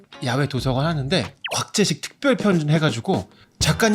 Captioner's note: humorous sound effect; cheerful music